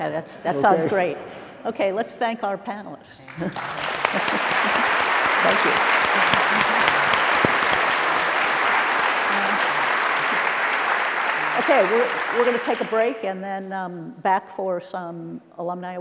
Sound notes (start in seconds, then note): 3.3 applause